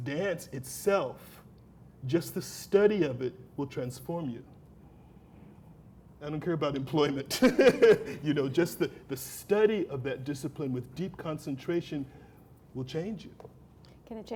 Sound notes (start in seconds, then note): 7.3 laughter